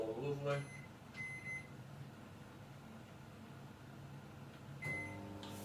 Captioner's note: microwave beeping